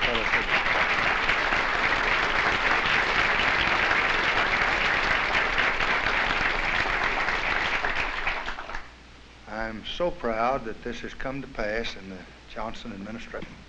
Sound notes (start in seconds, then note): 0.0 applause